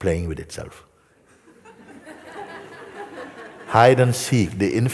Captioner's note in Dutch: gelach